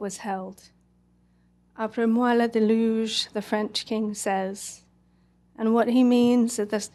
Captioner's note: french